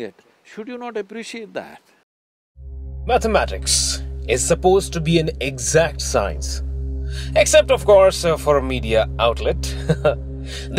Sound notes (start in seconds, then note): 2.0 audio cut; 9.7 laughs